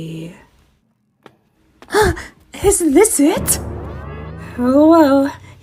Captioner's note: Amy gasps